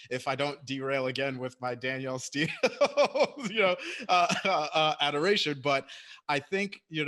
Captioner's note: laughs